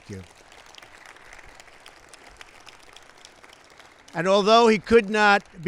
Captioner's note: applause